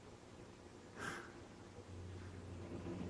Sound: sigh

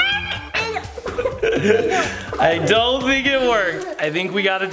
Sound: laughs

